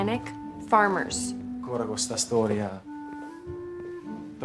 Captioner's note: mutters in italian